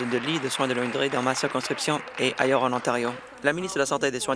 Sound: applause

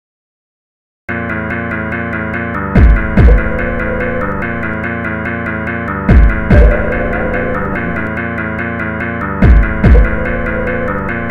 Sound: scary sound

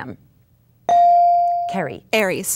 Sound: dinging

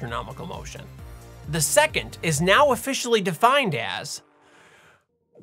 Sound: deep Inhale

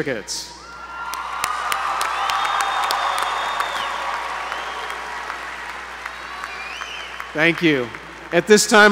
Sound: applause

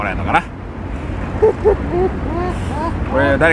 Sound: is laughing

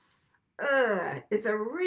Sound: groans

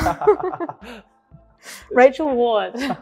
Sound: laughing

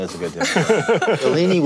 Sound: panel laughing

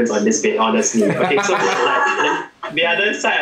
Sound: laughs

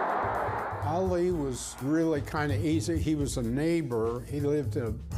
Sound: crowd cheering

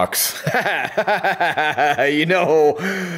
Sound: frustrated laughing

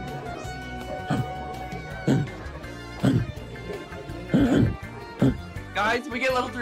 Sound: barks

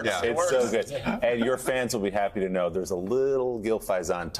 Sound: laughter

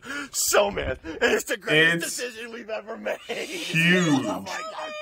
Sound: laughs

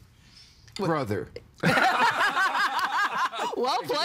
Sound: everyone laughing

